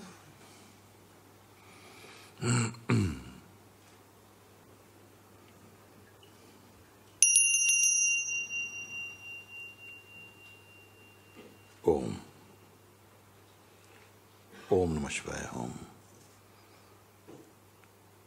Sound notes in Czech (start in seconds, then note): 7.2 zazvonění zvonku